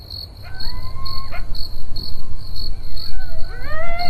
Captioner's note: crickets chirping; spooky howling